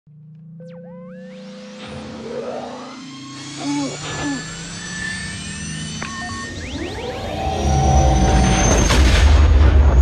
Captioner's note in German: Millennium Falcon Geräusche